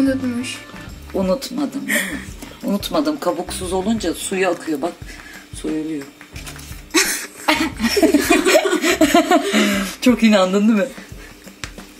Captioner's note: laughs